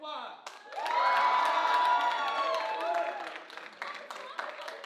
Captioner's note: audience cheering